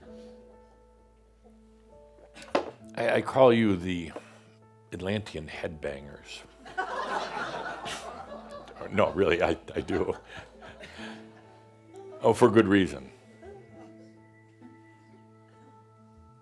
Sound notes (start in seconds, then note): 0.8 some giggles; 6.6 laughter